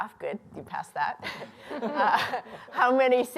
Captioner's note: laughter